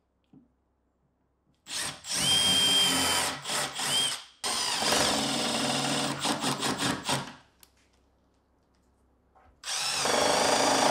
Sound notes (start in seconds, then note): 3.7 drill whirring and rumbling